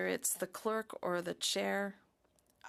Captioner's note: speaking French